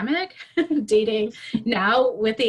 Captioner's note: laughs